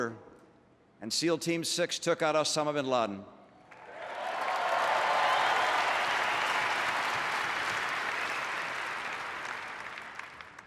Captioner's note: applause